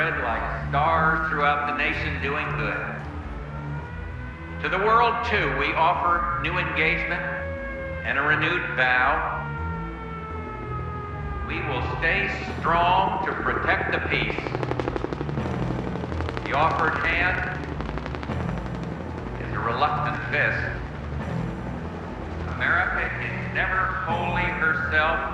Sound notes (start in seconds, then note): 9.8 sirens wailing; 15.0 helicopter rotors whirring